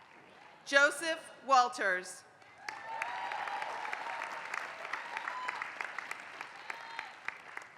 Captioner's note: applause; applause